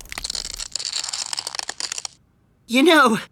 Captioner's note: cracking